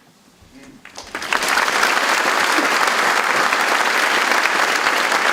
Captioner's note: audience applauds